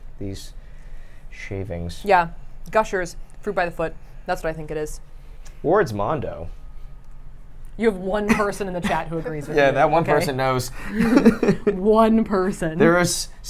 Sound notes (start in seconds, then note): 10.8 laughs